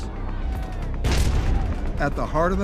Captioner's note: explosion